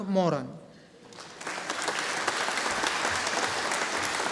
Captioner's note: audience applauding